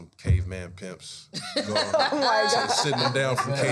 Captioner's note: panel laughing